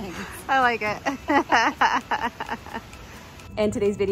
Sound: both laughing

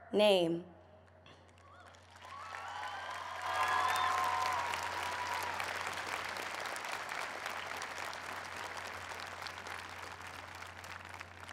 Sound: cheers and applause

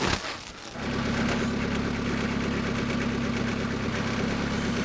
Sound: engine

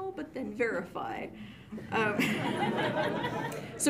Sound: audience laughs

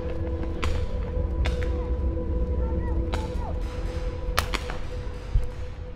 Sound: gunfire

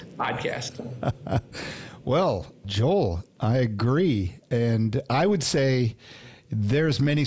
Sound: laughing

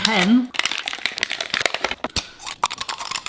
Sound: packet crinkling

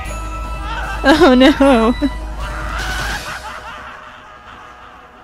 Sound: laughs; yelling; laughs

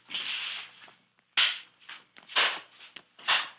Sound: clapping

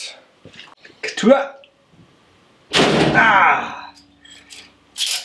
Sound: slams

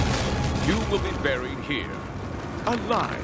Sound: none

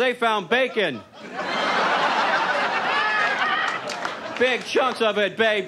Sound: audience laughs

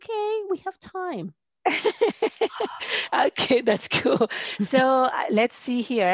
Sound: laughter

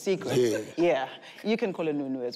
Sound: laughs

